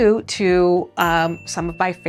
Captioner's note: bell pings